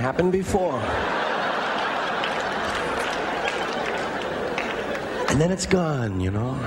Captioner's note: laughter